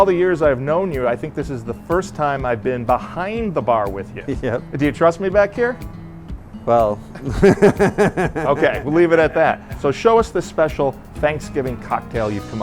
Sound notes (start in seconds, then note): 7.1 laughs